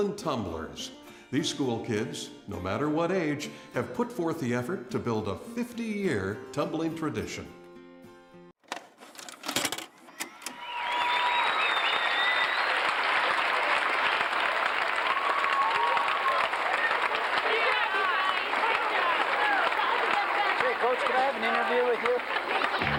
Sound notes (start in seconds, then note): 13.6 people cheering